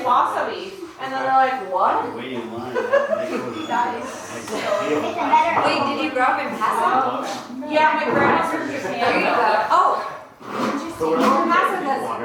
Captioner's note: laughs